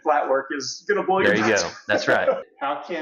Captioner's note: laughs